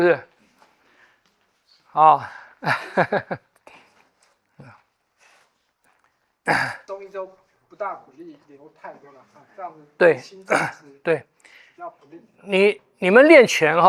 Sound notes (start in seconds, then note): 2.1 laughs